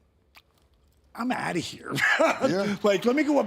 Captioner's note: laughs